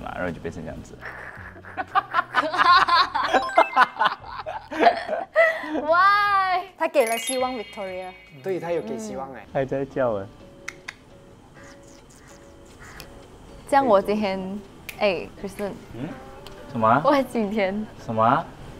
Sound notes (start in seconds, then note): 3.2 laughing while chatting